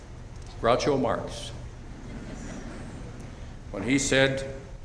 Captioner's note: chuckling